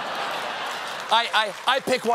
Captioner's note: applause; laughter